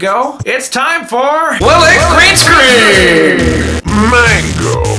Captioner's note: computer voiceOver